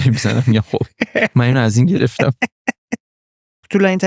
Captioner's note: laughs